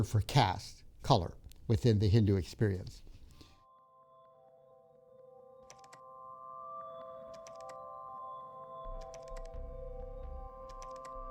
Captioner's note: instrumental music plays; keyboard sounds